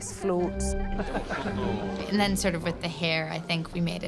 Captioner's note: laughing